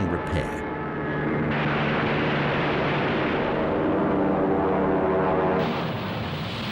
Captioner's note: plane engines roar